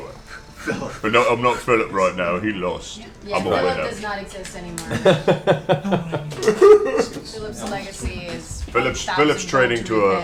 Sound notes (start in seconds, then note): 5.3 cries